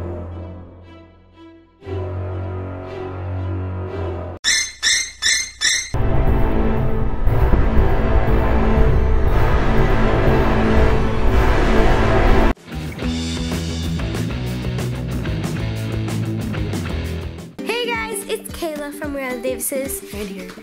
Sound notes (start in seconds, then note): 5.9 piercing sound effect; 13.2 light rock music